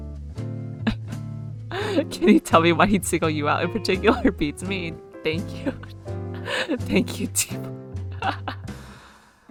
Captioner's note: laughs